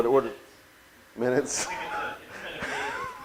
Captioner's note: laughs